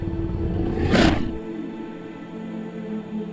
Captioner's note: lion's growl